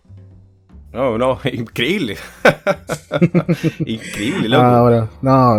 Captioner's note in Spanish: risas